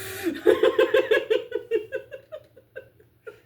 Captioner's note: buffers with laughter